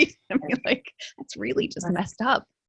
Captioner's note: laughs